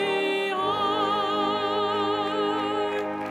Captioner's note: applause